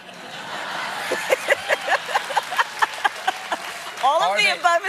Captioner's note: laughter